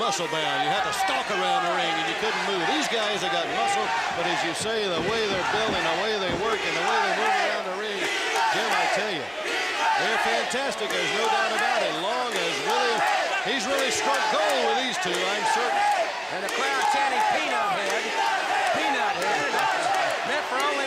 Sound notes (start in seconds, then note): 17.8 crowd cheering